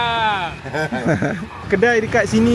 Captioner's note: laugh